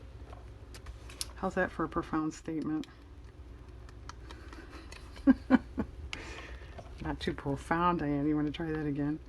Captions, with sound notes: how's that for a profound statement? (laughs) not too profound, Diane, you want to try that again?